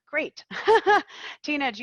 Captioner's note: laughing